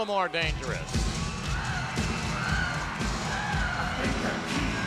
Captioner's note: upbeat music; audience cheering